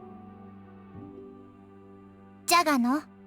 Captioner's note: silence